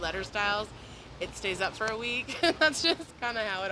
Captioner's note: laughs